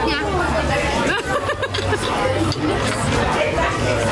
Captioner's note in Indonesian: Ketawa